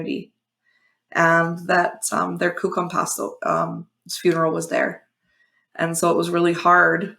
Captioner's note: foreign language